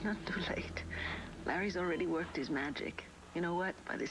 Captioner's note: monitor beeps